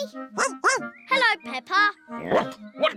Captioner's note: snorts; barks